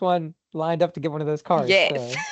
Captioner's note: laughing